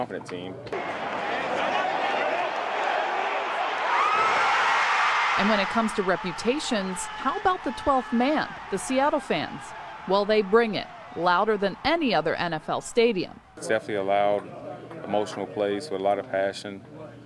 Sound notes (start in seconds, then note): 10.2 cheers and applause